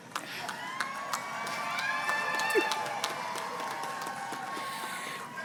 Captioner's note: crowd cheers and claps